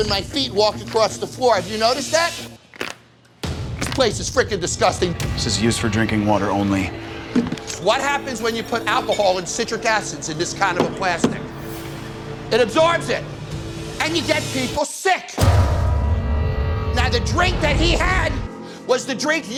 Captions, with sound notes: my feet walk across the floor? Have you noticed that? [RIPPING SOUND] This place is frickin' disgusting. This says "Use for drinking water only." What happens when you put alcohol and citric acids in this kind of a plastic? [THUMPING] It absorbs it and you get people sick! [FOREBODING TONE] Now, the drink that he had was the drink